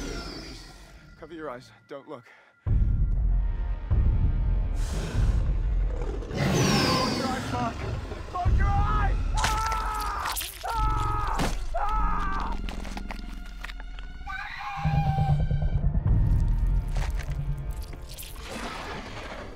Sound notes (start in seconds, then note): 3.1 ominous music; 4.9 dinosaur growls; 10.6 man screams; 16.3 dinosaur growls